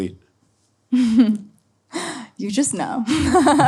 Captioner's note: laughs